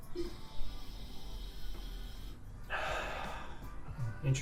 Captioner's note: sniffs